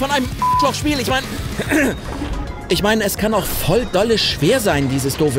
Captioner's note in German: räuspern